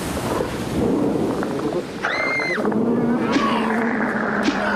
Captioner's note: sea serpent roaring; Lucy screaming; snarling